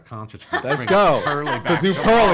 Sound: laughing

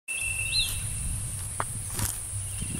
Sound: footsteps

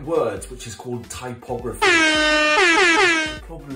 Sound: klaxon

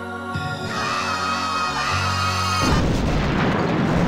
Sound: screaming; explosion

